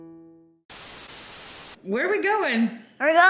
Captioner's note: static crackles